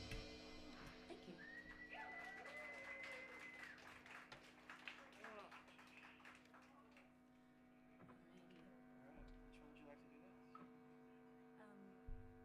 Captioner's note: applause